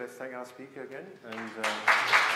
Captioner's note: audience applauding